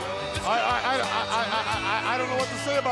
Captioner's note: crowd cheering